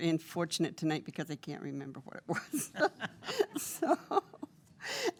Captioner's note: laughing